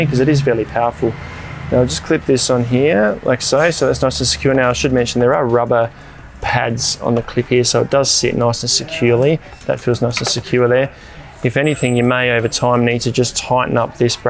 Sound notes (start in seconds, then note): 1.2 fan blows; 9.4 background chatter